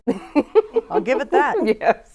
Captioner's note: laughing